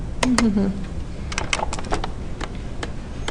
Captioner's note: hums